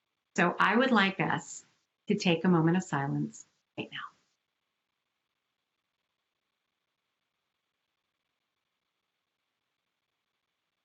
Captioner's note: moment of silence